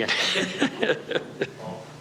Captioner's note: both laughing